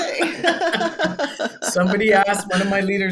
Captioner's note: both laughing